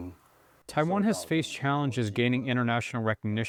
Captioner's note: through translator